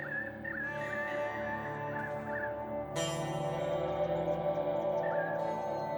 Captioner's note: birds chirping; steady ominous music